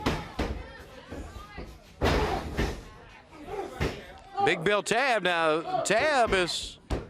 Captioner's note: crowd chatter